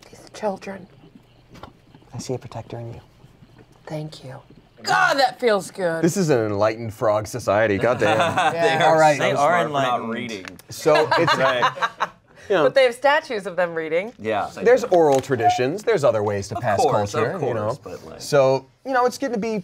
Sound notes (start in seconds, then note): 7.8 everyone laughs; 11.0 laughs